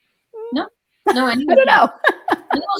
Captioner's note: laughing